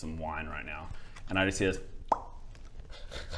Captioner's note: pop